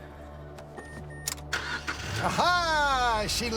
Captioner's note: engine starting